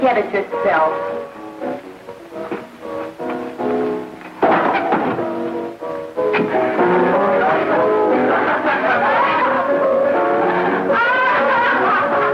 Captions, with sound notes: - Get it yourself. (bangs chair) (laughing)